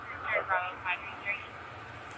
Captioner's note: radio chatter